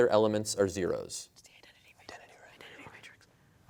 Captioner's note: whispering